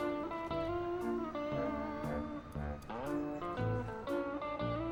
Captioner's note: siren wails